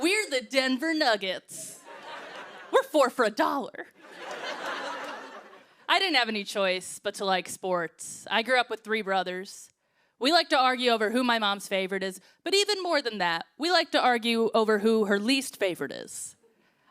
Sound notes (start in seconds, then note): 3.9 laughter